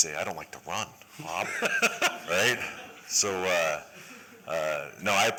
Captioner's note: laughter